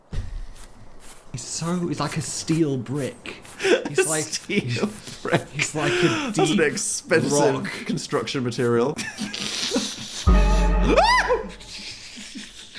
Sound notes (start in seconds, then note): 4.0 laughing; 10.2 music chord; 11.9 laughing